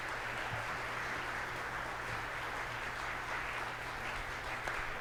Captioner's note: audience applauds